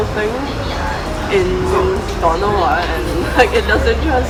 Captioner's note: Cantonese